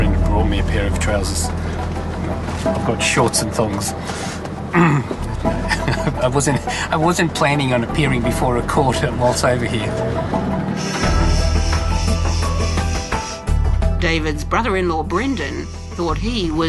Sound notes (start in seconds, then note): 5.0 laughs